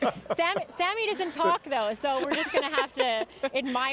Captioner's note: laughter